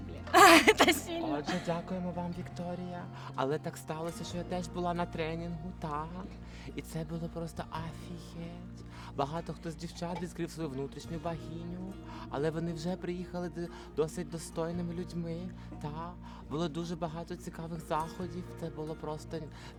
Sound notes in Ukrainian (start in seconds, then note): 0.3 сміх; 1.9 голосом Ольги Герасим'юк